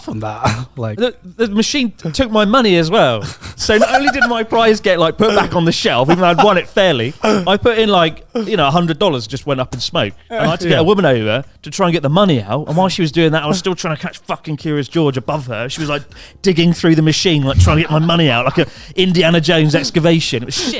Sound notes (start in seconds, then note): 3.6 laughs